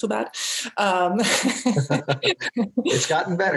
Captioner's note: both laugh